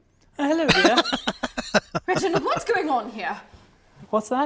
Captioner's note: laughing